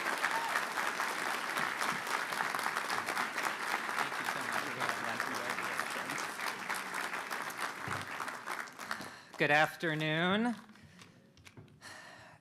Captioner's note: applause